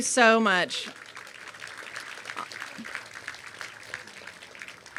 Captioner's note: applause